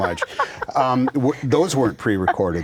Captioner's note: laughter